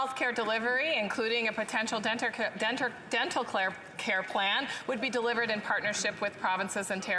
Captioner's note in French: voix de l'interprète